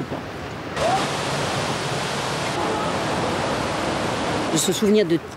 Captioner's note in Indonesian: suara pusaran air